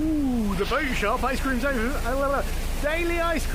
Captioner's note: incoherent excited babble